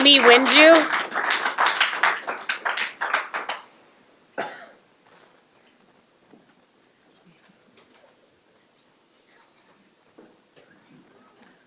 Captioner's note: applause